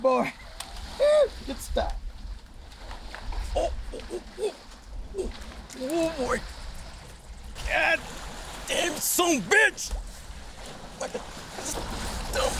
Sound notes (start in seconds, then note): 5.1 grunts